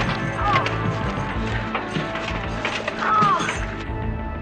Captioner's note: groaning